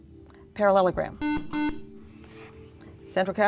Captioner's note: buzzer